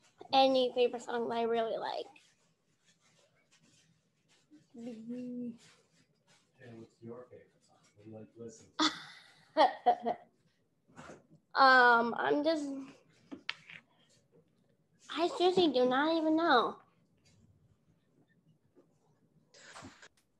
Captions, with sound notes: Any favorite song that I really like. (laughing) Um I'm just I seriously do not even know.